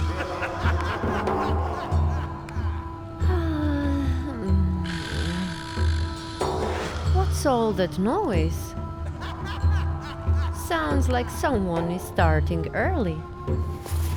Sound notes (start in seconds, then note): 0.0 muffled laughter can be heard; 4.8 snoring